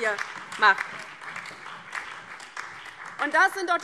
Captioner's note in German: Beifall DIE LINKE, vereinzelt BÜNDNIS 90/DIE GRÜNEN und SPD